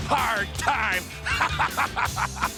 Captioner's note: laugh